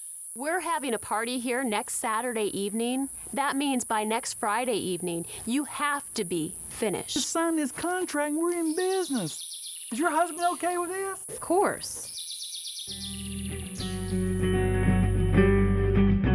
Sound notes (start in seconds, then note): none